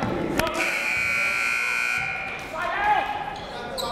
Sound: buzzer

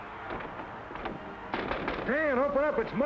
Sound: Mike knocks

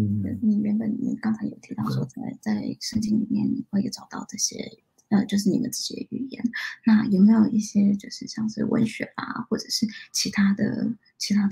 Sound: speaks mandarin

